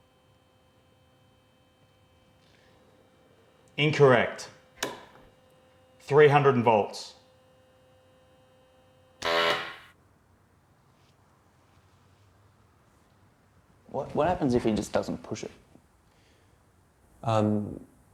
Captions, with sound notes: - Incorrect, 300 volts. (machine blaring) - What happens if he just doesn't push it?